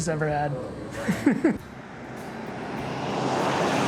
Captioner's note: laughs